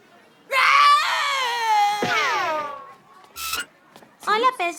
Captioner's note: screaming